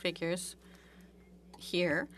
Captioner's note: speaking French